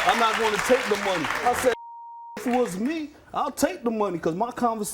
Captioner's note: beep